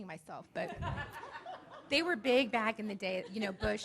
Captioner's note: audience laughing